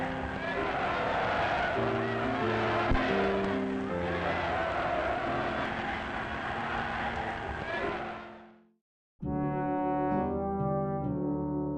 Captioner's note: chanting